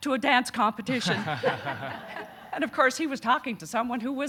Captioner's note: audience laughing